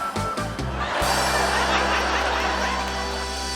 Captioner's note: laughter